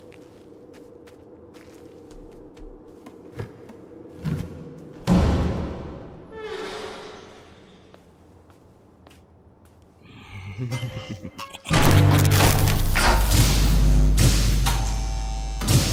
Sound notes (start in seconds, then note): 5.0 echoing thud; 6.2 door creaks; 9.8 cackling; 12.9 lights buzz